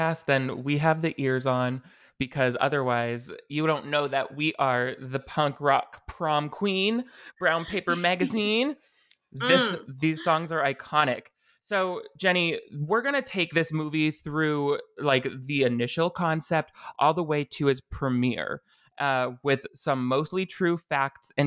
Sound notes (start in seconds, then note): 9.4 laughs